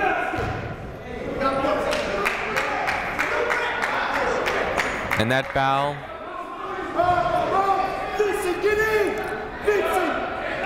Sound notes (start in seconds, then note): 1.8 clapping; 2.1 shouting